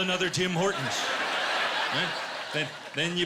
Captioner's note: laughter